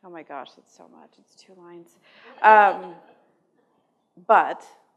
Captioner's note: laughter